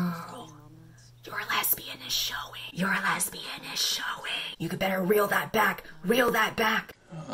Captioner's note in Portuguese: sussurando